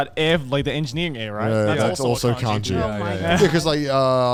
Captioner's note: hosts laugh